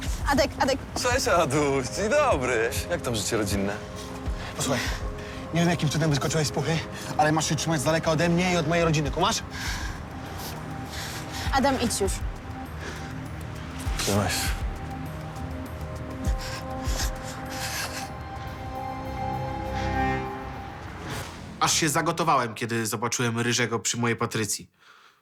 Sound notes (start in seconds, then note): 15.8 breathes nervously